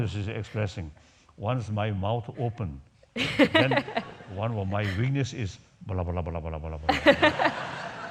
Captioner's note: laughs